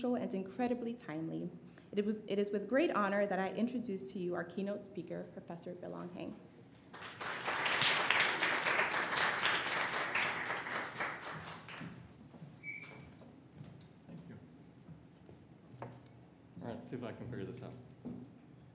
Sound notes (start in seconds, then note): 6.8 applause